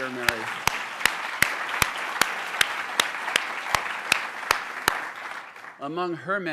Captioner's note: applause